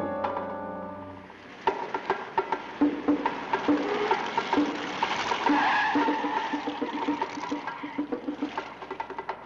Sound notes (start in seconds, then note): 2.8 engines rumbling